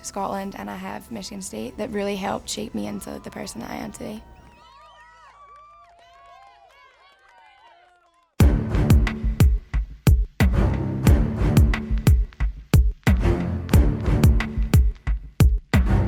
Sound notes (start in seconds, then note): 4.1 applauds; 4.2 group cheering; 8.4 dramatic hip hop music